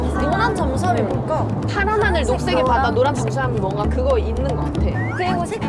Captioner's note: Хурдан ярих